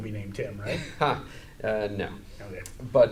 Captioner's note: chuckles